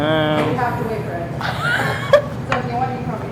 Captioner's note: student laughs